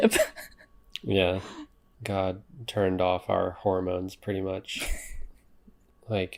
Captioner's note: laughs; laughs